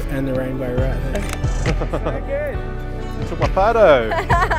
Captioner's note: camera clicks; group laughing; laughs